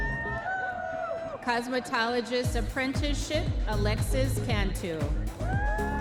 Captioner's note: audience members cheering